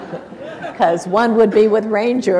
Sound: laughter

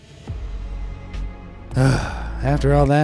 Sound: narrator sighing

